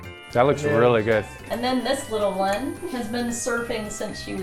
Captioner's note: laughs